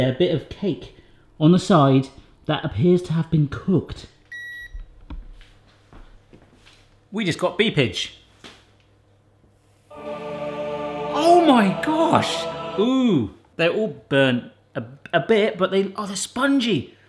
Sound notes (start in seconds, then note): 4.1 electronic beeping; 9.9 triumphant music